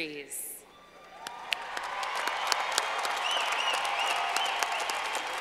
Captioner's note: clapping